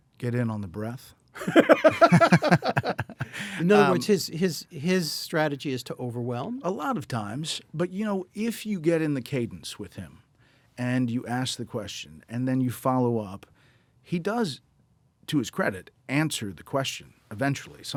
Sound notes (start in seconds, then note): 1.4 both laughing